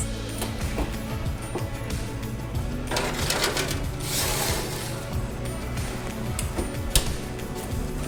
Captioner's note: clanking of baking sheet against oven rack